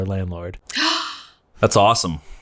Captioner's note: gasps